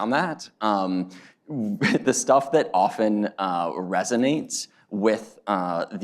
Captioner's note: laughs